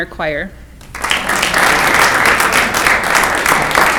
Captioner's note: clapping